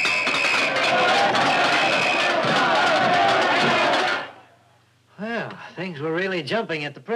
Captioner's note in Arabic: صافرة، قعقعة الكؤوس